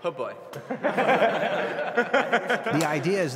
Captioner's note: team laughing